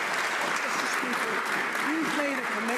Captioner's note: some Applause